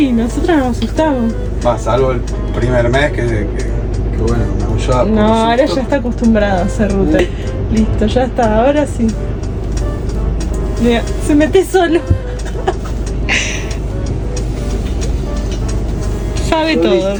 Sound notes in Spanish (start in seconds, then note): 12.3 risas